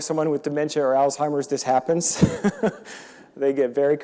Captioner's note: laughs